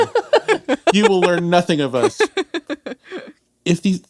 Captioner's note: laughs